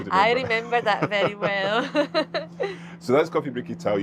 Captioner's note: chuckles